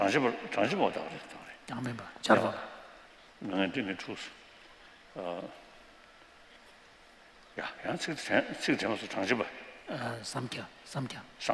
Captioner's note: non-english speech